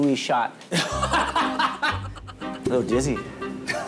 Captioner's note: haha